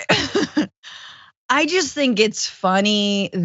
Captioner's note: laugh